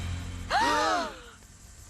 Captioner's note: all gasp